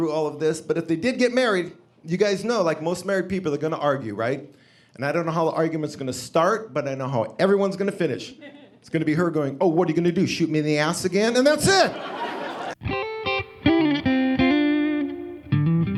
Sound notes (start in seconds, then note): 11.7 audience laughing; 13.3 upbeat music